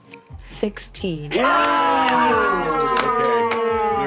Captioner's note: players cheering